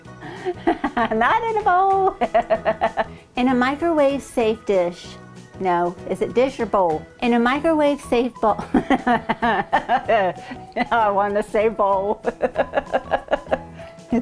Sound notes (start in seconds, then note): 0.3 laughing; 8.6 laughing; 12.3 laughing